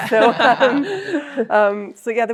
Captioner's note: group laughs